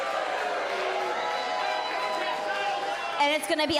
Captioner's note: cheers & boos